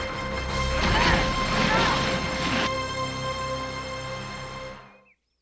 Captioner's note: ladies groaning